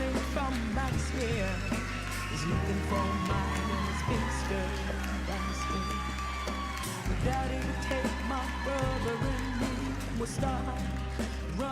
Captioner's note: applause